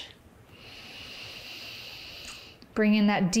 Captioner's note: inhales